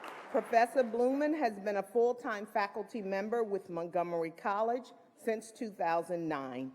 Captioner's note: applause